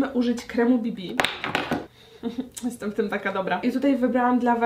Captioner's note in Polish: trzask